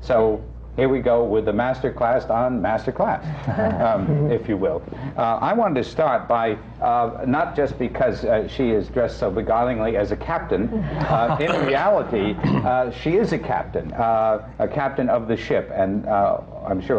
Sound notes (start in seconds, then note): 3.4 laughter; 10.7 laughs